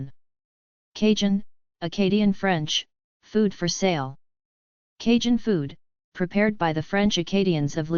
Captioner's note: acadian French